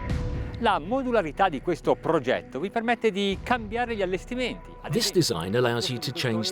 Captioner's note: speaking Italian